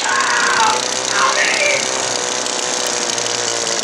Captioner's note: screams